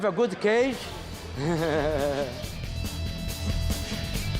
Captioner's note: laughs